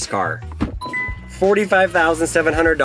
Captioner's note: car dings; door clicks